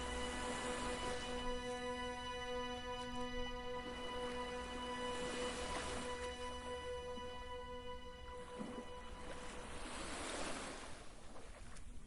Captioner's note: violin Music; waves Crashing